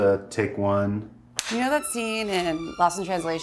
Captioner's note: clapper board snaps